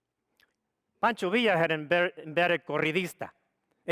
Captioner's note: speaks foreign language